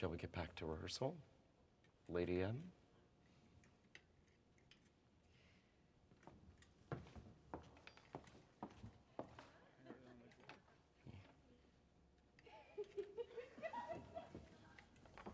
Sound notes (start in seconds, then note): 12.4 women laughing